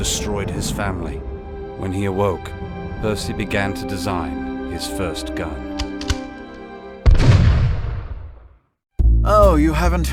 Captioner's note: gunshot